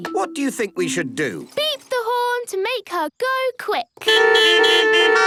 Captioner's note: beeping